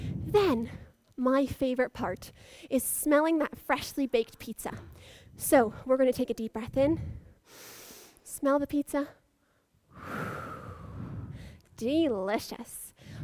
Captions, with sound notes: Then, my favourite part is smelling that freshly baked pizza. So we're going to take a deep breath in. (inhales) Smell the pizza. (exhales) Delicious.